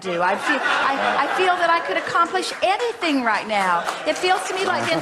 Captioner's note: audience laughs